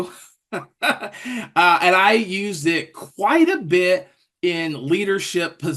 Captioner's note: laugh